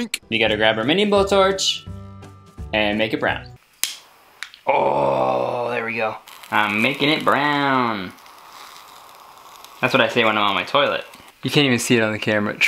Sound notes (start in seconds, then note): 3.7 blowtorch clicking; 8.6 blowtorch hissing